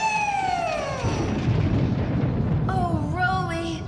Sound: thunderclap!

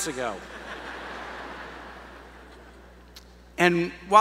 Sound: laughter

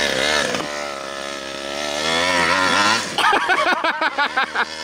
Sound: engine roars louder; laughs

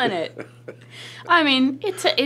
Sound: James laughs

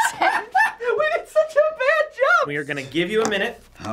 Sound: laughing

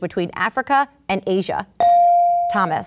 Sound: ding

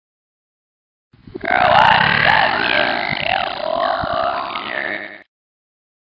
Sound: evil voice

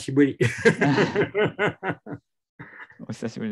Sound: laughter

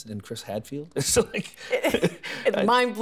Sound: laughing

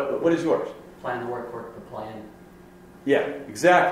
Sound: voiceover

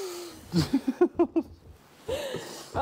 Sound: laughter

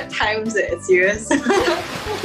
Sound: laughs

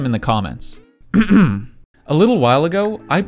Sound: clears throat

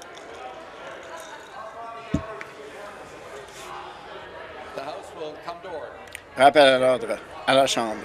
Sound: conversation din

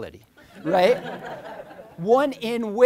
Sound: crowd laughing

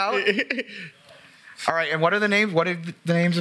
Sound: laughter

